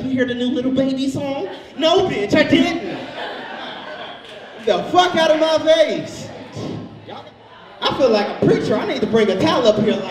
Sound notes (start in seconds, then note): 2.4 audience laughs